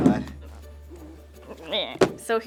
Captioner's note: straining